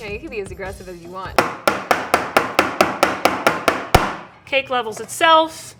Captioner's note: loud banging